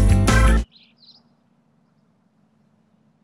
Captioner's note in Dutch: vrolijke reggae; vogeltjes gesjirp